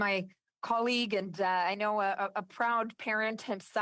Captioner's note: speaking French